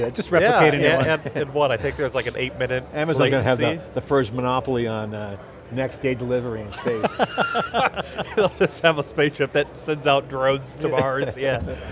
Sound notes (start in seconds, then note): 6.8 laughing